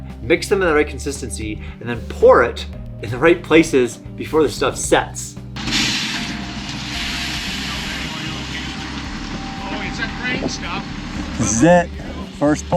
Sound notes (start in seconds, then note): 5.6 truck clanging